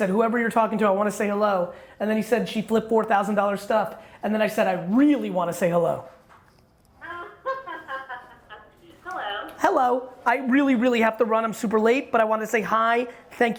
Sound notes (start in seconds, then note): 7.0 laughs